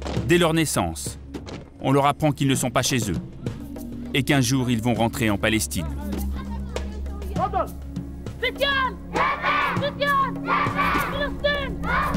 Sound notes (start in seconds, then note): 7.5 arab spoken audio